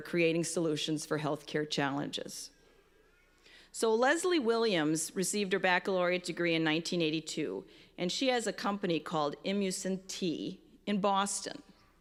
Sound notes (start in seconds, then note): none